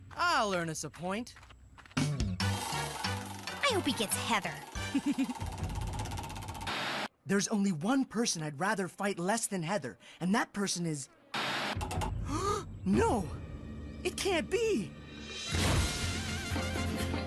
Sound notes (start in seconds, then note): 4.8 Gwen Giggles; 12.2 Alejandro Gasps